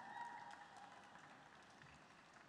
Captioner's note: applause